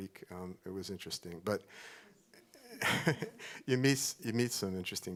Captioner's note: laughs